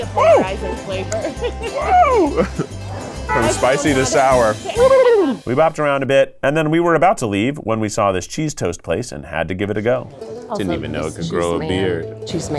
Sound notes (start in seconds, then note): 0.0 laughs; 0.0 lively music; 4.7 babbles